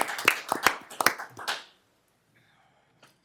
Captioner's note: applause